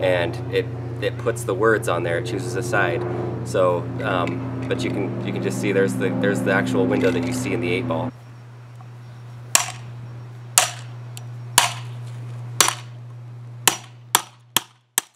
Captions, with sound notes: and it puts the words on there, it chooses a side. But you can just see, there's the actual window that you see in the 8-Ball. (hammering)